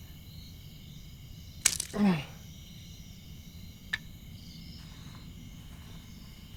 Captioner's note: none